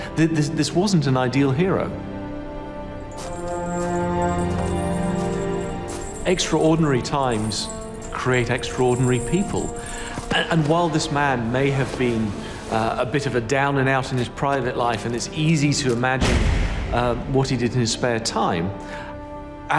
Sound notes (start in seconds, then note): 3.0 coins jingling; 3.4 reflective music